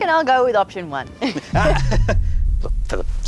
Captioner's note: chuckles